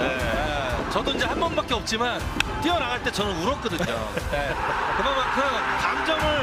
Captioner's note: laughs